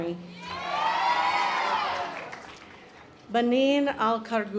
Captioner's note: audience applause